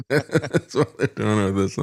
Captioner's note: laughing